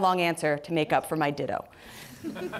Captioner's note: laughter